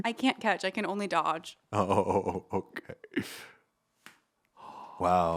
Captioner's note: chuckling